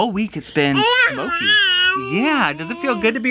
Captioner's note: chatters